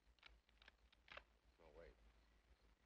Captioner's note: gun clicks